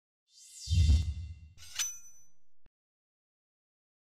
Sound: logo swishing

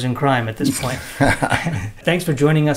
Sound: laughter

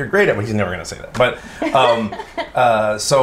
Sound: laughs

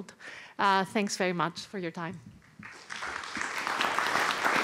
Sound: applause

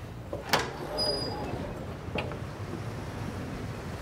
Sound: door opening

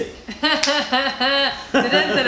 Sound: laughter

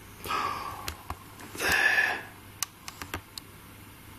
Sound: gasps

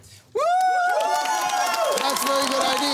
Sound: cheering and applause

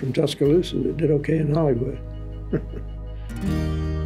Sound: laughs

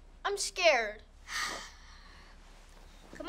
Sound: sighing

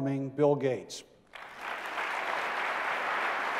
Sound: applause

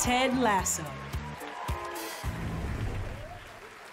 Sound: cheering

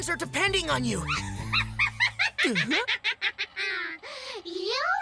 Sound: laughing

